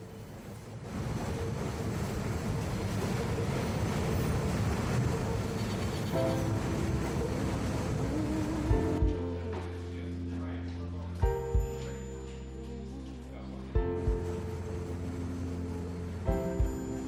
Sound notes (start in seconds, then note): 2.8 train thundering; 8.1 soothing music